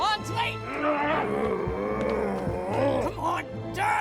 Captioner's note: zombie walter groaning